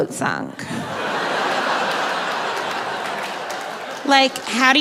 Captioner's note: audience laughing